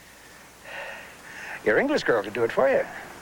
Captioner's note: panting